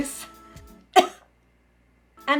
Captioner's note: cough